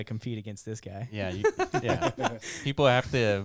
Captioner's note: laughs